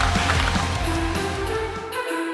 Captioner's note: applause; light music